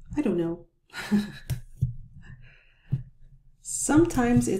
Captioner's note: chuckles